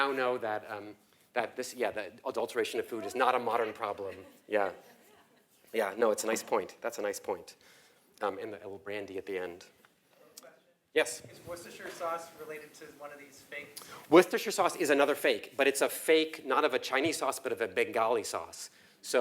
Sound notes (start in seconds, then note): 3.0 laugh